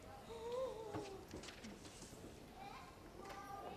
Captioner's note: gasps